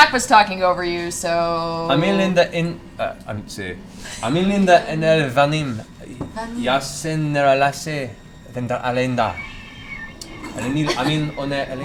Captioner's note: speaking in Elven